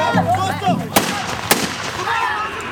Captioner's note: two gunshots ring out